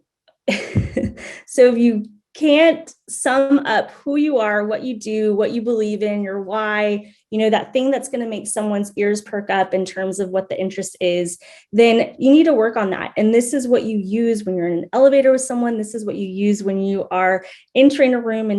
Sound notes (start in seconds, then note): 0.4 chuckles